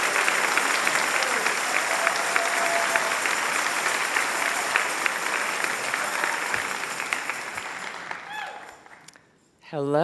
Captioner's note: applause and cheers